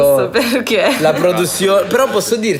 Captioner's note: laughs